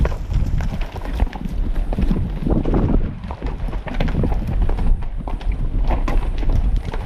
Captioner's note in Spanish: Sonidos de pisadas de caballo al pasar sobre rocas